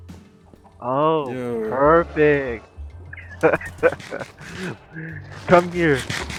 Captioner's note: devious chuckle